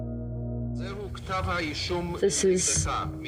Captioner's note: court official speaking foreign language